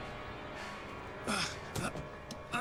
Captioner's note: groan